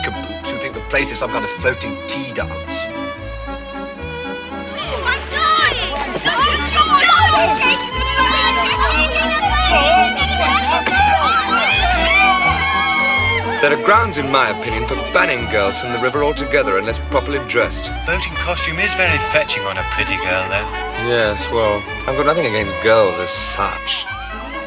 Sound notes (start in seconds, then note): 7.8 clamouring; 11.7 screaming